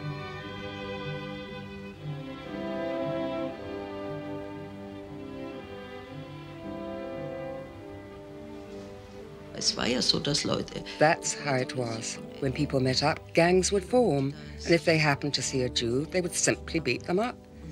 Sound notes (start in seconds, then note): 10.1 speaks foreign language